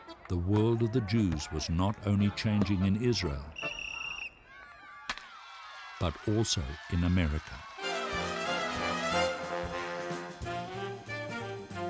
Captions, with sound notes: The world of the Jews was not only changing in Israel. (blows whistle) (cheering) but also in America. (cheerful orchestral music)